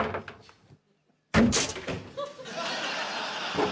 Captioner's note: thump!; thunk!; laughter